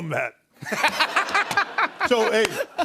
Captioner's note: laughter